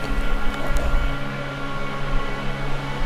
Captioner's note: whispers